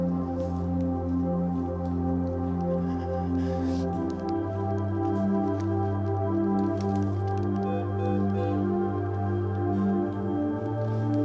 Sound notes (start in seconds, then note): 5.5 breathing shakily; 9.2 beeping